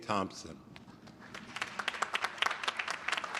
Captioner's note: applause